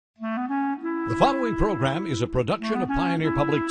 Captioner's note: voiceover